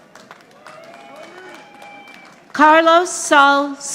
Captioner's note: audience applauding